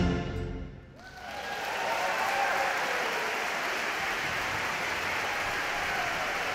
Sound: audience cheering; audience clapping

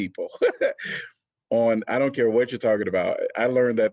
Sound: laughter

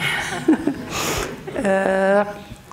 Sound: laughs

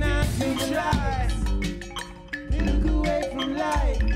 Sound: clang, clang, clang of cowbell

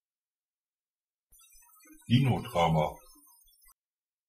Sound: fast Pronunciation

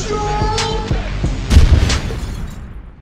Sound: explosion with glass breaking

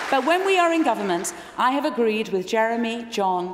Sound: applause

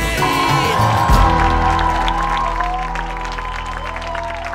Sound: audience cheering

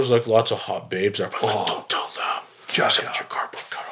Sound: whispering

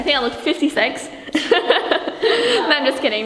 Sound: laughing

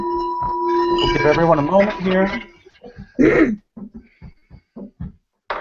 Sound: clears voice

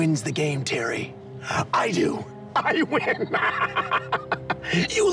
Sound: laughing

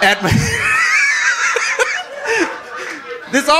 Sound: audience laughing

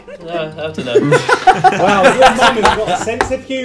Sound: laughs

